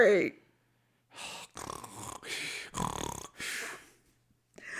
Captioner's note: makes snoring sounds